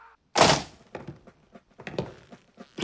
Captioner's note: massed heel clicking